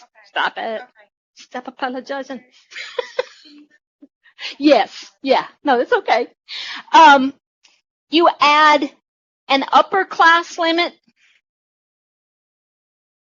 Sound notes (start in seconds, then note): 2.7 laughter